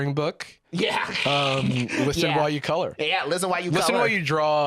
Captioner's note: laughing